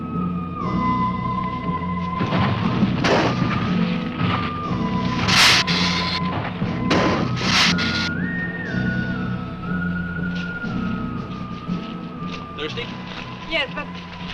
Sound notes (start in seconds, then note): 0.2 dramatic music; 3.2 ground rumbling; 3.2 lizard hissing